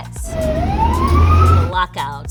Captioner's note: siren wailing